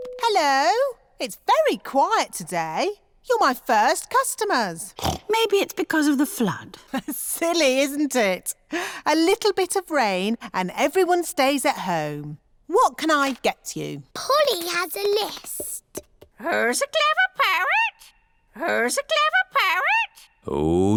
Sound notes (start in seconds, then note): 4.9 snorts; 7.3 laughs